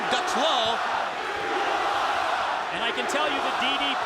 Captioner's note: audience chanting